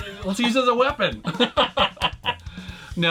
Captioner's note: both laughs